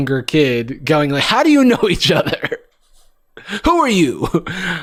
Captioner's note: laughs